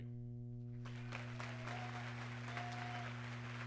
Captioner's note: applause